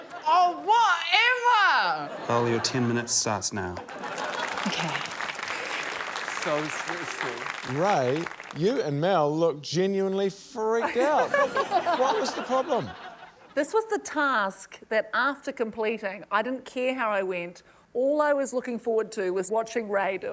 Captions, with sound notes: - Oh, whatever! - Mel, your 10 minutes starts now. - (LAUGHTER, APPLAUSE) - OK. - So stressful. - Ray, you and Mel looked genuinely freaked out. - (LAUGHTER) What was the problem? - This was the task that after completing, I didn't care how I went ― all I was looking forward to was watching Ray do it.